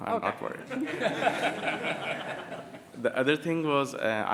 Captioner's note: laughter